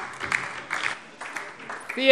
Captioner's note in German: Beifall DIE LINKE